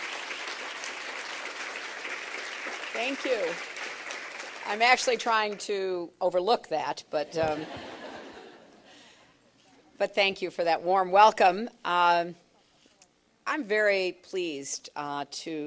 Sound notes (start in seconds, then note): 7.4 laughter